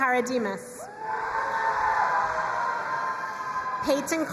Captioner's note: crowd cheering and applauding